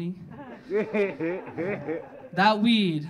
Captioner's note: audience laughing